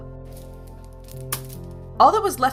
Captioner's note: cable ties clatter on table